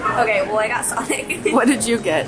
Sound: giggles

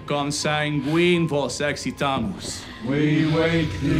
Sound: everyone speaks in foreign language; Marcus speaks in foreign language; everyone speaks in foreign language

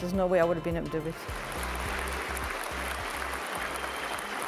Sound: applause

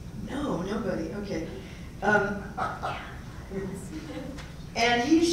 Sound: laugh

